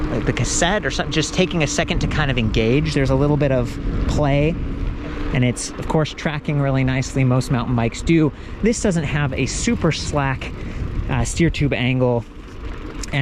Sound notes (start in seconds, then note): none